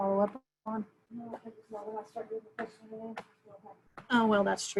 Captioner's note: murmurs